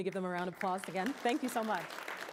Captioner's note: applause